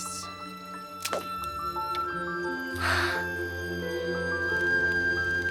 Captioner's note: trap snaps, Kit gasps